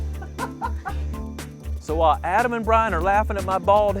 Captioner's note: laughter